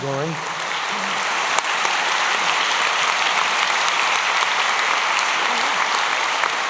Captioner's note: applause